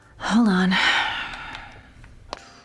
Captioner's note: sighs